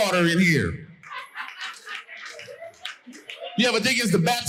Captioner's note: audience laughing